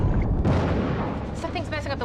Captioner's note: crash